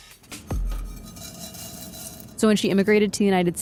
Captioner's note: rattling